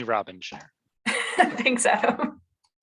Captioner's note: laughs